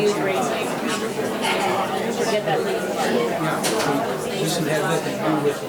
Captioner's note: background chattering